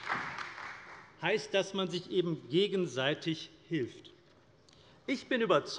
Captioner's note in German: Beifall bei der CDU